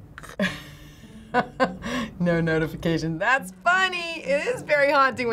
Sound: chuckles

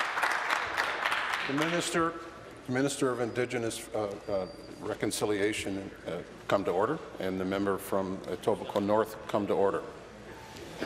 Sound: applause

